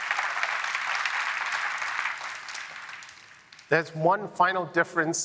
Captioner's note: applause